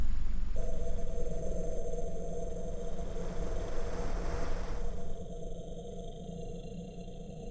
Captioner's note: static noise